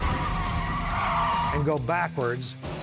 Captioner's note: tires screeching